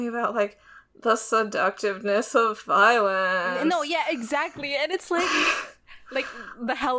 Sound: both laugh

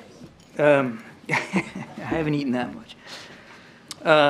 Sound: laughs

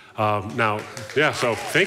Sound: audience applauding

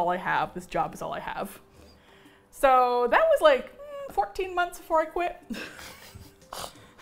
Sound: laughing

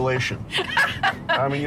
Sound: laughing

